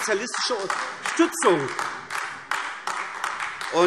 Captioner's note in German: Beifall AfD